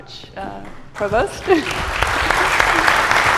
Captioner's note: applause